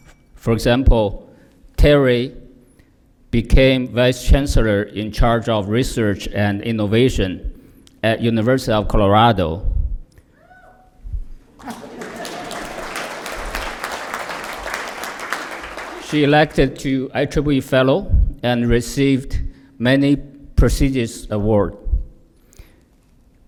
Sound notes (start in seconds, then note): 11.5 applause